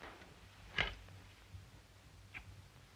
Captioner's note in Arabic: none